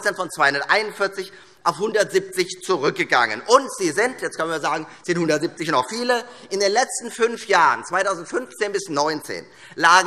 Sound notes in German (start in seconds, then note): none